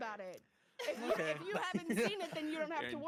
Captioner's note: laughing